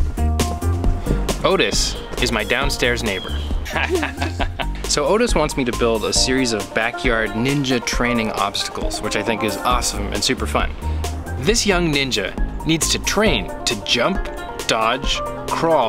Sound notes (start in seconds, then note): 3.6 chuckling